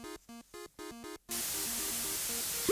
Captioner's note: spraying